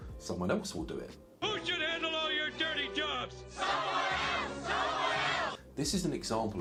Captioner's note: crowd chants